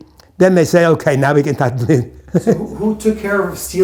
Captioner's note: chuckles